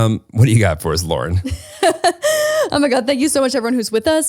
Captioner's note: laughs